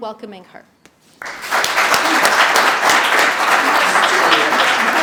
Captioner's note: audience applauding